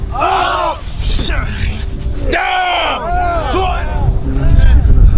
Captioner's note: men grunting